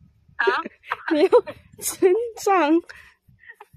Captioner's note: bro is snickering